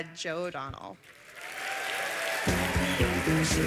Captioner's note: applause